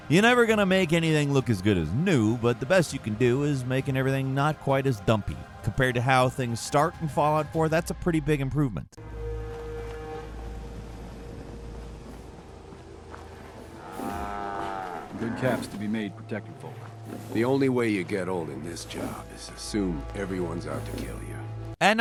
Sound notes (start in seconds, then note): 9.0 horn blaring; 13.5 cow mooing